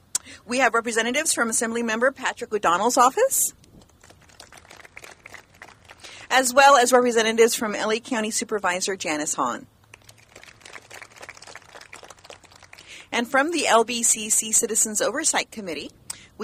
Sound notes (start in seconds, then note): 3.9 clapping; 9.8 clapping